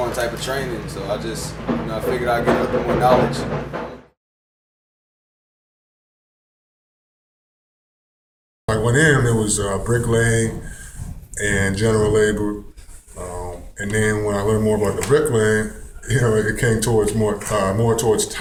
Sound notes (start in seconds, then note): 3.8 silence